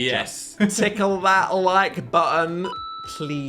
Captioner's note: button chimes